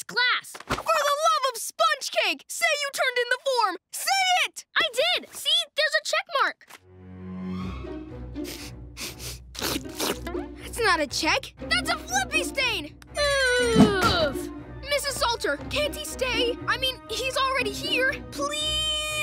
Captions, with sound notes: For the love of sponge cake, say you turned in the form! Say it! I did. See? There's a check mark. [sniffing] That's not a check, that's a Flippee stain! [groaning] Mrs. Salter, can't he stay? I mean, he's already here. Please!